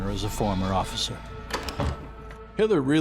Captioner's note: door closes